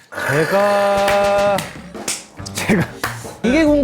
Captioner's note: clapping at the awesome build up